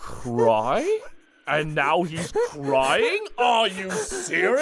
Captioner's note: crying